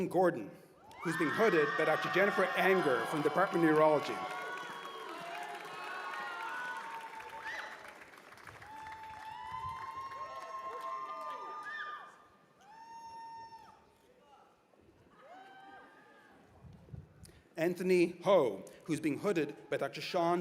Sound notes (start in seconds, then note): 5.8 cheers and applause